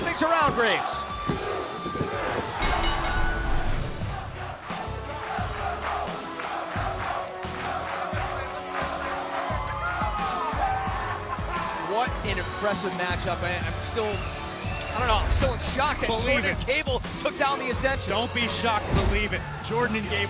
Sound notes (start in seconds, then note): 0.5 fans chanting; 2.6 bell